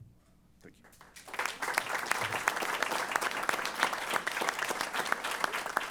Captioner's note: applause